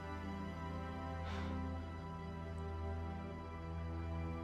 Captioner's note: Kaylee breathing heavily; soft dramatic music continues